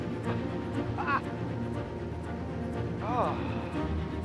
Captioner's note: Baratunde exclaims